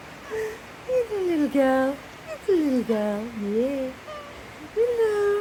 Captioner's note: meow